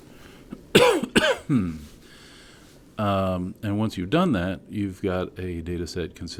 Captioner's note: cough